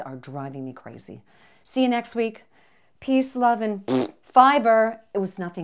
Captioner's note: makes fart sound